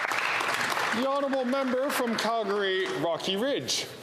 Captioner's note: some Applause